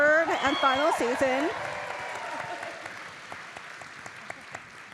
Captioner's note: audience cheering